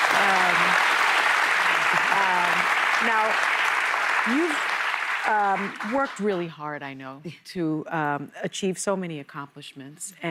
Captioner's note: applause